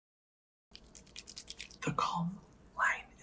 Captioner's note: lotion clicking